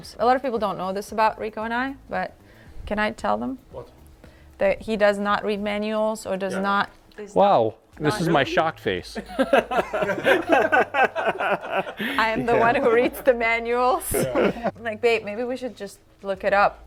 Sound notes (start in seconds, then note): 9.2 group laughing